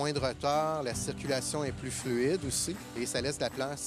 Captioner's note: speaking French